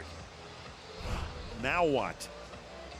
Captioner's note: swoosh